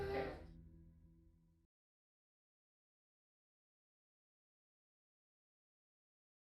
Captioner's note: baby crying